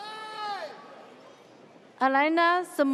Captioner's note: audience cheers